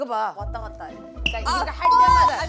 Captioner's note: bboing